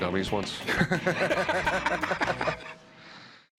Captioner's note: laughter